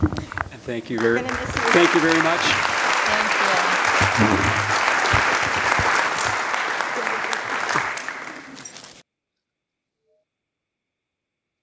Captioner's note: applause